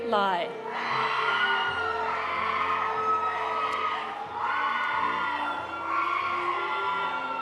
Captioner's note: audience cheering; audience applauding